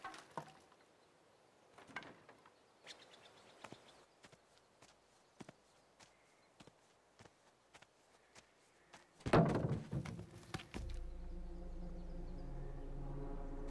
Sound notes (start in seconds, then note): 9.2 Kyle's foot hits something